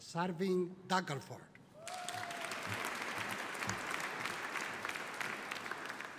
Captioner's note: audience applauding